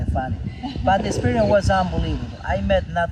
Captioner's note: laughs